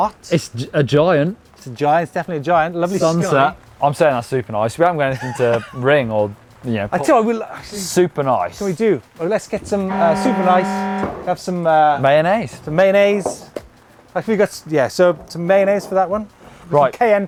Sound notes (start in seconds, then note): 9.6 horn sounds